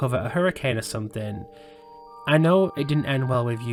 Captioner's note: exhales